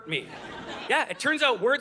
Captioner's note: audience laughing